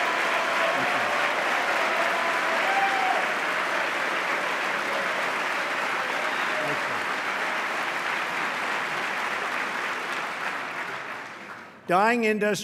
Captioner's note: applause